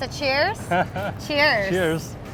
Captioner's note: laughing